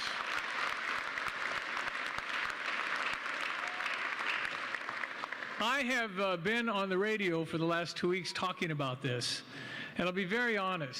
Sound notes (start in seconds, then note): 3.1 applause